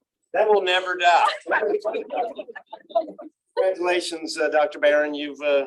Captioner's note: laughter